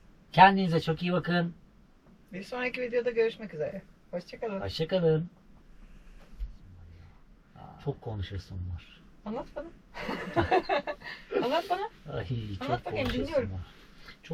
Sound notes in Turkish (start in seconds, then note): 9.9 kahkaha